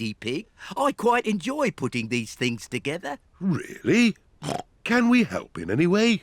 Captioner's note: snorts